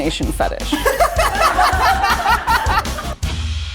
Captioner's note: laughter